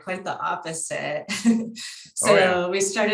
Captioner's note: chuckles